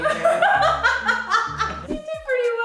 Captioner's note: laughs